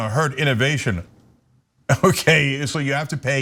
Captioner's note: laugh